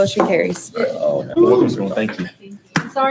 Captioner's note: board members sigh and quietly whoop